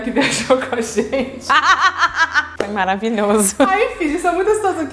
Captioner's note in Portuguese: rindo; risos